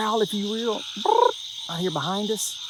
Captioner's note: Sheldon imitating frog